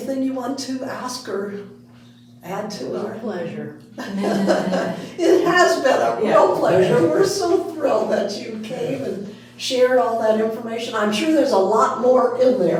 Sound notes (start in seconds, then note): 4.0 all laughing